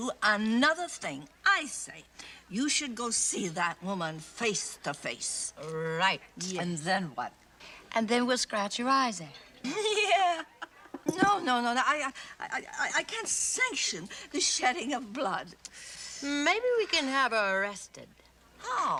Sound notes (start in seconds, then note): 9.6 laughs